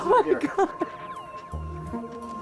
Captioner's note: crying